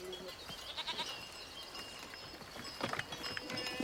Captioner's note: goat bleating